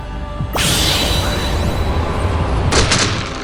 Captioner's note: whirlwind